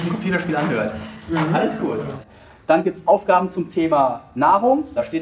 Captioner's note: laughs